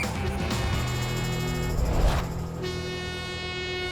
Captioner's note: whistle tweeting; train horn blaring